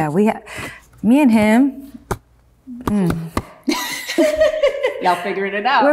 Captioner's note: laughs